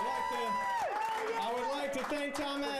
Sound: audience cheers

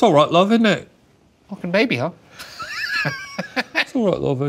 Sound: laughing

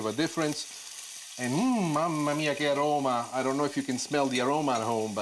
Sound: foreign language

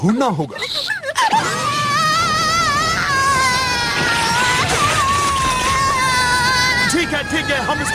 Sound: cries

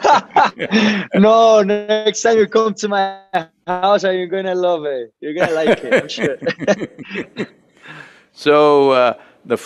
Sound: both laugh; Sadhguru laughs

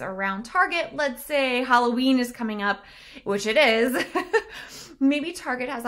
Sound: chuckles

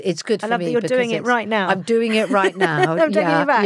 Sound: laughs

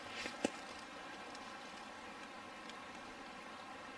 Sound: burbling water

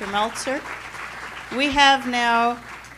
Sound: applause

